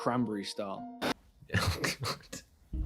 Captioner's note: laughing